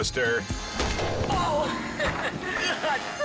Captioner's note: log thuds; prankster laughs